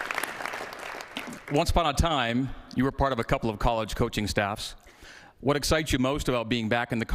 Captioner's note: cheers and applause